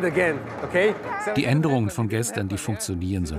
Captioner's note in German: englisch